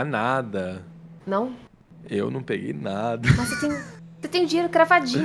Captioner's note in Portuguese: Risada